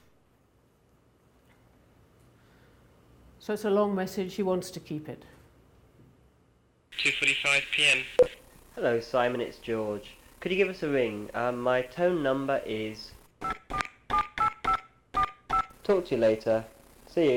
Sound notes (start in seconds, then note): 13.4 keypad beeping